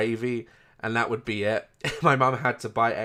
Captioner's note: laugh